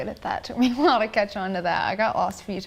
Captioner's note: laughs